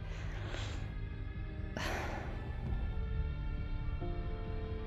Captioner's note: Brandy sighing